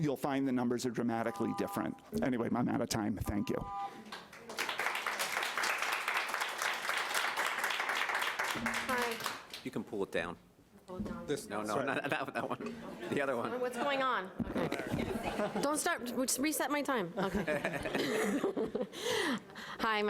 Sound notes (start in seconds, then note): 4.0 audience applauding; 14.5 laughing; 14.5 audience laughing; 17.2 laughing